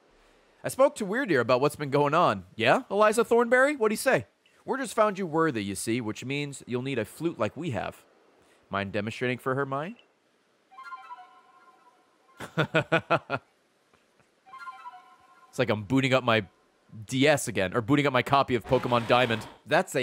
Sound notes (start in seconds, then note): 11.1 flute noise; 12.4 laughs